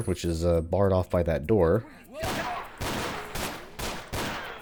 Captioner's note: gunfight ensues